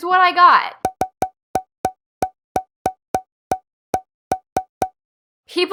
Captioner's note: popping noise X12